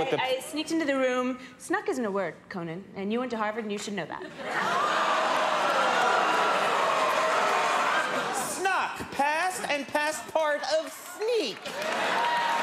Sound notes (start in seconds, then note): 4.3 crowd laughing; 12.3 crowd cheering